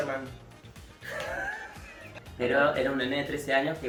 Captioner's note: laughs